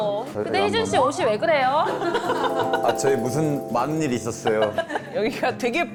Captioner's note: confused sound effect